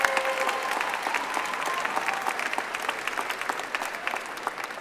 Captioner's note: applause